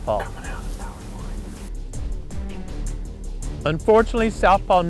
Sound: whispering

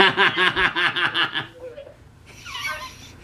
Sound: laughs

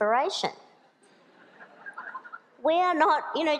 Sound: laughter

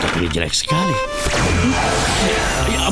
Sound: whooshing; tinkling

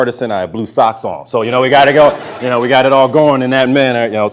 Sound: audience laughter

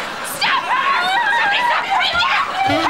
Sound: shouting

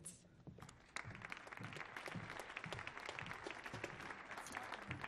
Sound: audience clapping

